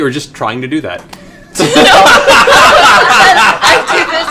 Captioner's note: laughter